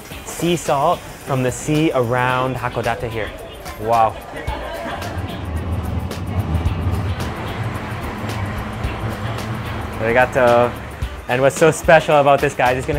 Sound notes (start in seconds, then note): 4.8 funky music; 10.1 speaks in foreign language